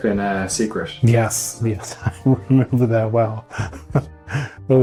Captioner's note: chuckling